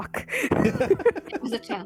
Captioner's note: laughter